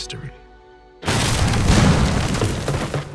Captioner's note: explosions